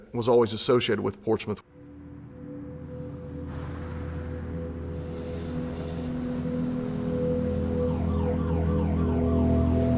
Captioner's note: sirens wailing